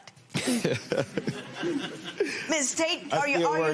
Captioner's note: laughter